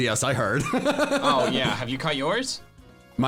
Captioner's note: laughs